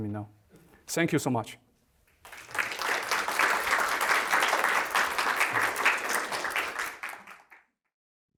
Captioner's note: applause